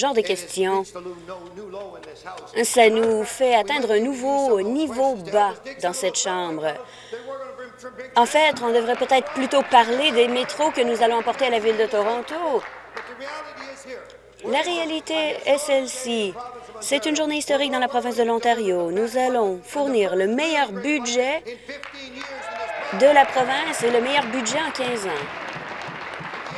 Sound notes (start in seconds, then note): 14.3 applause